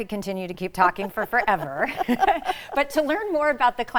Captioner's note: both chuckle